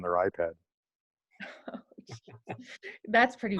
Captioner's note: laughter